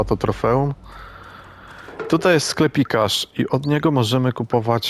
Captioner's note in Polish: westchnienie